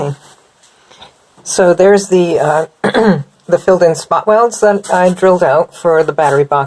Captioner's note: clears throat